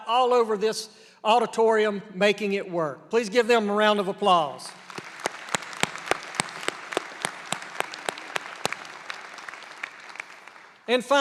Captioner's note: applause